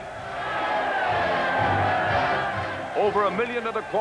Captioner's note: cheering